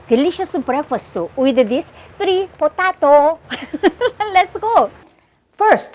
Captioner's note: chuckles